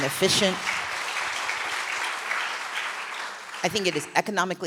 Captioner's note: applause